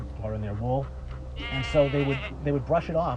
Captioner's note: bleating